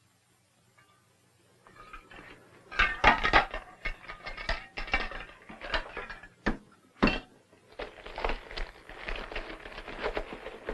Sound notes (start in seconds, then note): 2.6 clattering; 7.6 rustling